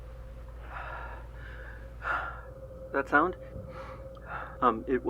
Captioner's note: panting